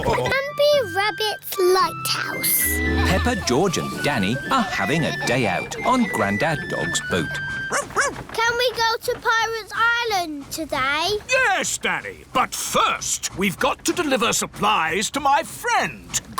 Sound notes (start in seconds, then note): 7.7 barks